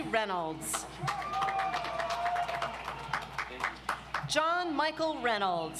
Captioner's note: audience applauds